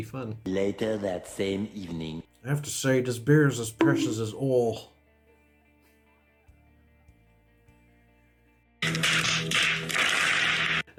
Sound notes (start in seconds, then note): 8.8 slap; 10.0 many slaps